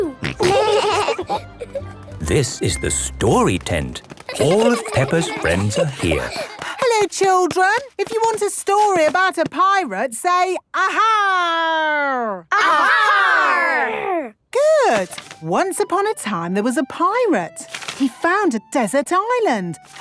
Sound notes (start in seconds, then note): 0.2 laughing; 5.6 excited babbling; 12.6 all shouting